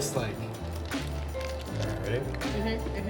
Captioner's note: ice rattles